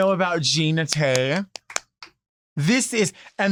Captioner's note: claps